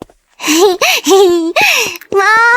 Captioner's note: giggles